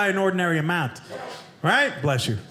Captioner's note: audience member sneezes